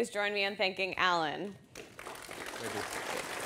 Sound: applause

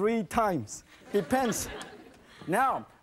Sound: audience laughing

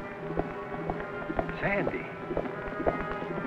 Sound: galloping

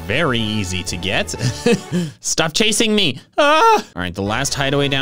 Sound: laughs; comedic scream

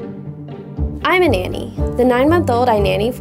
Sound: voiceover

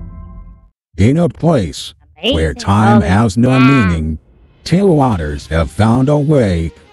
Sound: voiceover

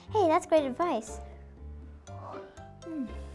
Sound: yawn

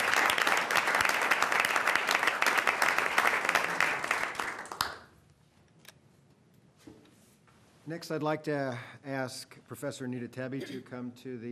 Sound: applause

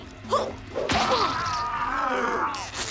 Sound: Ulth-Lah-Throth roars

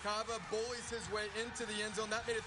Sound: crowd noise

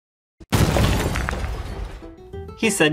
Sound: crashing

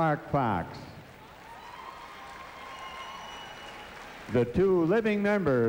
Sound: cheers, whistles, & applause

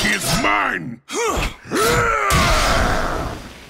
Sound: grunting

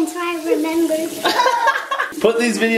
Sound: laughter

